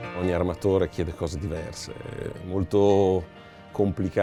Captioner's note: relaxing music; speaking Italian